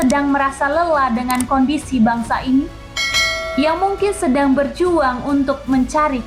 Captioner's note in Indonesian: lonceng